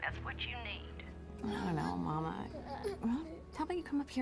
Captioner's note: children straining, grunting